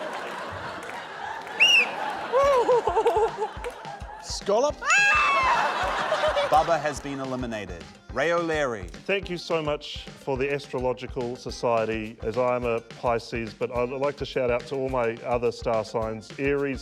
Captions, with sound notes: - (BLOWS WHISTLE) - (LAUGHS) - Scallop? - Argh! (LAUGHTER) Bubbah has been eliminated. Ray O'Leary. Thank you so much for the Astrological Society, as I am a Pisces, but I'd like to shout out to all my other star signs, Aries,